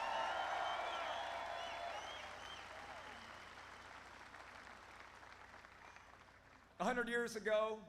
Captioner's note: applause